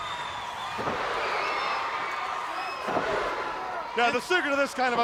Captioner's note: crowd counting